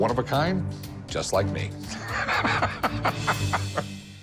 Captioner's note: laughs